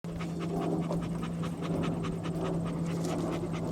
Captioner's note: dogs panting